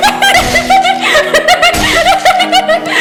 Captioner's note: slashing